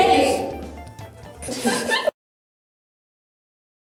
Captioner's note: giggling